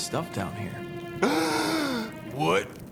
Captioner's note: POOPLOSER_69 gasps loudly